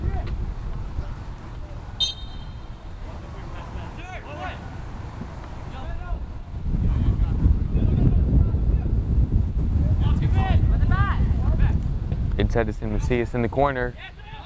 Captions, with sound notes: (whistle blows) (players talking and yelling) Inside, it's Macias in the corner.